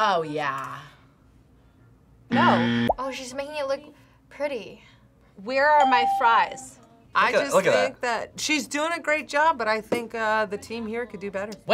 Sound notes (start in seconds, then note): 2.4 buzzer rings; 5.8 bell rings